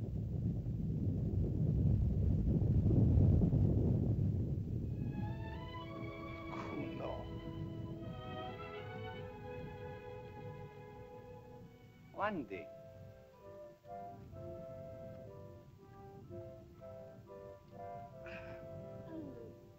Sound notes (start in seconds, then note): 0.0 Loana speaks in caveman language; 0.3 volcano rumbles; 4.3 sentimental music; 4.3 volcano rumbles; 6.5 Tumak speaks in caveman language; 8.5 sentimental music; 8.5 volcano rumbles; 13.7 soft music